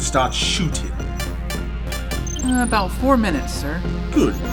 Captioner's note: Porter taps the screen